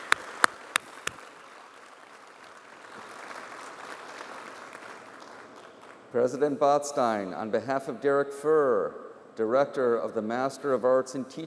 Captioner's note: applause